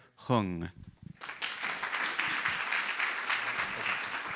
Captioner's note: audience applauds